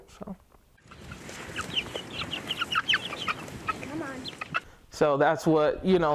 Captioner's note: chickens chirping